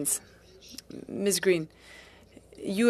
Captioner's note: speaking French